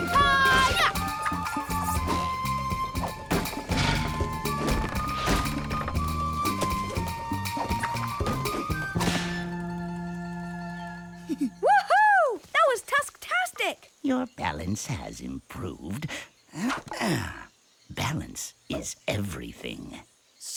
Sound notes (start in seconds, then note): 11.2 giggles, pleased